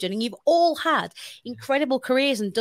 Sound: none

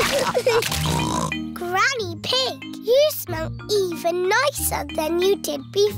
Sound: snorts

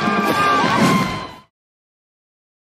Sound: band playing and crowd cheering; woosh

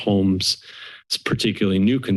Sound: inhales

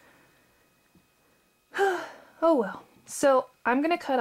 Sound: audible sigh

